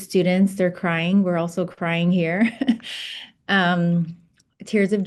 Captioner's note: chuckles